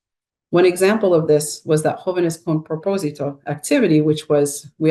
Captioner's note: speaks in Spanish